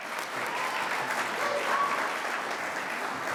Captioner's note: audience applauds